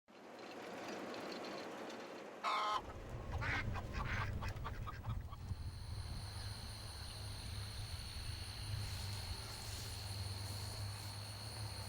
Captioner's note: quacking, clucking, insect sounds